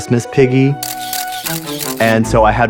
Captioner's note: camera flashing